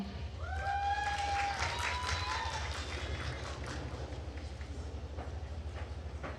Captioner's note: attendees cheering and applauding